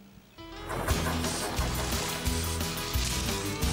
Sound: engines Running

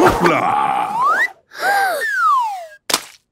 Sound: Peppa gasps; splat

